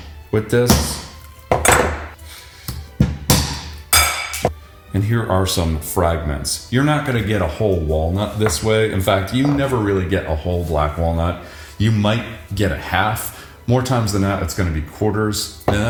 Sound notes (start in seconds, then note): 3.0 hammer banging